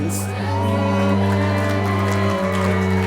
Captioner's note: applause